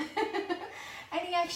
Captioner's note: laughs